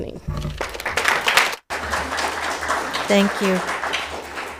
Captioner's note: audience applauding